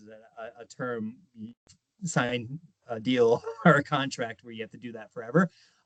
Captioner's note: chuckling